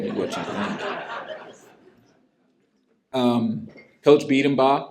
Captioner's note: laughter